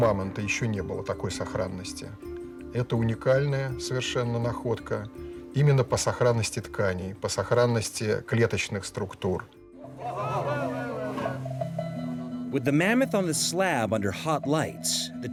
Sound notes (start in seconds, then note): 0.7 speaks in foreign language; 9.8 people chatter